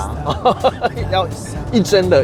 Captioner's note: laughter